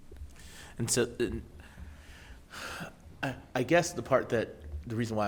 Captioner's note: sighs